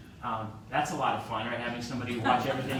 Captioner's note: laughter